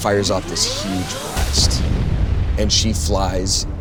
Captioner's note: blast bangs